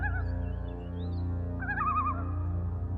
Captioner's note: none